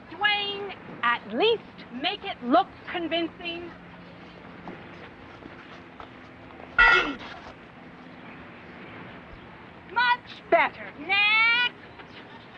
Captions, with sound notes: Dwayne, at least make it look convincing. (clang) - (groan) - Much better, next!